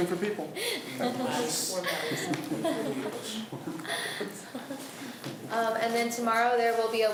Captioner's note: laughs